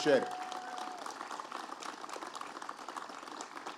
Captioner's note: applause